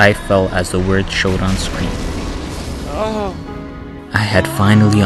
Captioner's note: euphoric noises